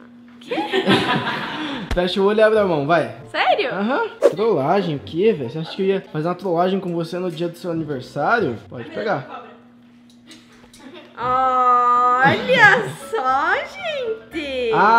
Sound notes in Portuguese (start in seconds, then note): 0.4 Risadas